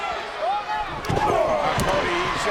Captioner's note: crowd yelling; wrestlers punching